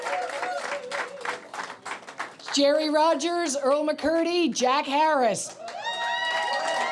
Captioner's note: applause